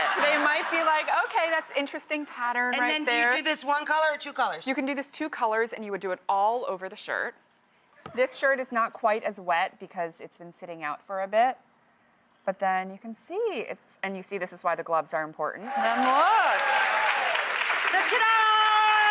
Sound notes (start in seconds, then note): 15.6 crowd cheers